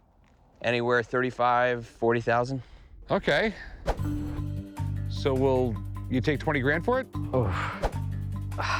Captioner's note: none